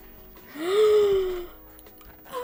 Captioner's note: gasp